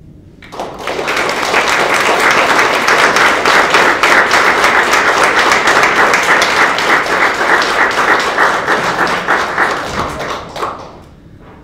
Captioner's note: applause